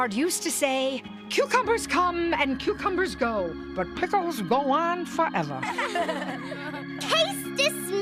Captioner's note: all laughing